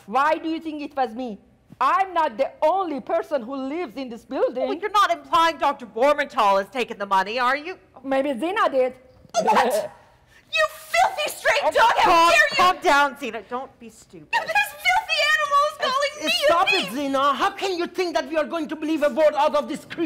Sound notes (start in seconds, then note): 9.7 Sharik softly chuckles